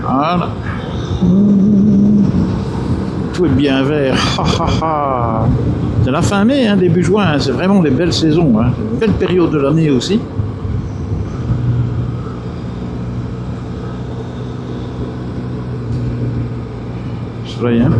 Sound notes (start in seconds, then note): 10.7 engine